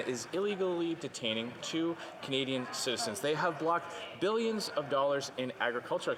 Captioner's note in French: voix de l'interprète